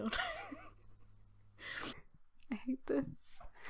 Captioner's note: laughing; laughs